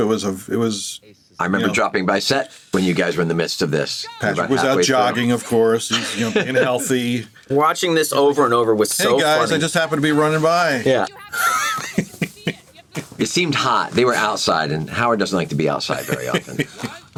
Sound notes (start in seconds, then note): 11.1 chuckles